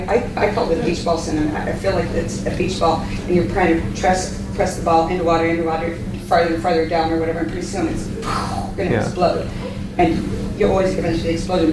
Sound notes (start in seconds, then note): 8.2 mimics explosion